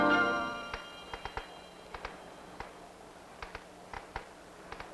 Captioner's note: rocking chair creaking